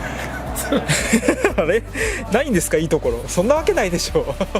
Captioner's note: laughs